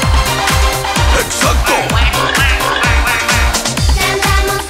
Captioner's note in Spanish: Música alegre; Sonido pato, pato, gallo, cerdo, pato